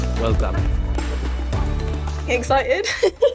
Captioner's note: group applauds